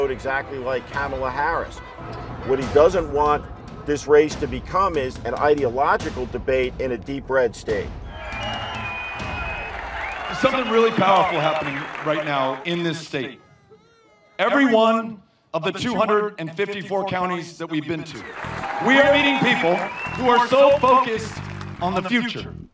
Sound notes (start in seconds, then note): 8.0 crowd cheering